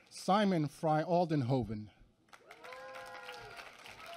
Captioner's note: applause